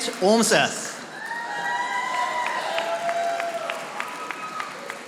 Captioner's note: audience applauding